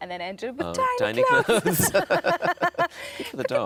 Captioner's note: Sarah and Tom laughing